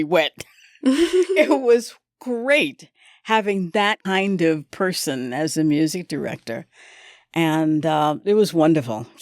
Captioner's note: laughter